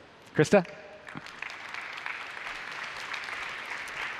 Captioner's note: applause